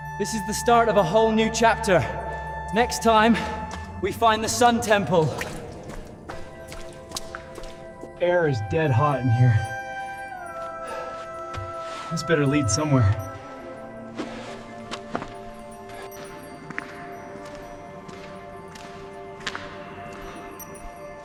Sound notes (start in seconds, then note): 5.4 footsteps thud; 10.9 instrumental music plays